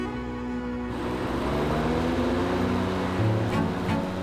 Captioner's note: lawnmower turns on